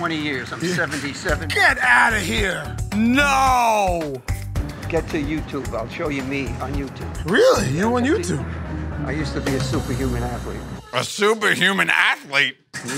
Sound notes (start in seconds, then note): none